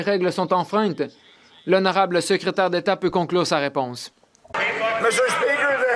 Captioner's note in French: voix de l'interprète